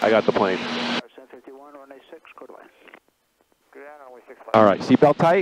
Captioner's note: radio murmuring